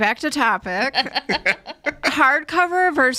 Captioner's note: hosts laugh